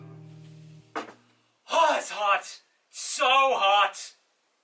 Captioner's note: speaking